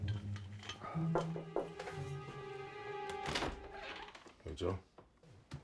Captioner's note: Joe sighing; knock on door